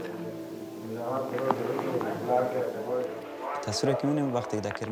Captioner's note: Dari spoken audio